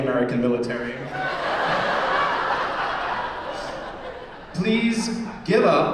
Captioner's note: laughter